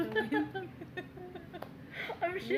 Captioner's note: laughter